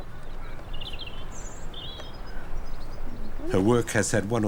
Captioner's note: birds chirp